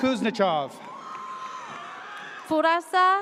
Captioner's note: audience cheers